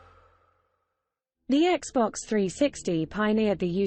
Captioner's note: british female voice